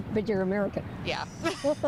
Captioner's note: laughs